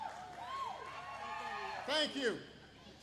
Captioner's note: applause